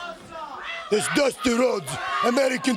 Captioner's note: crowd cheering